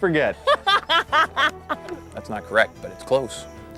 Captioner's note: laughter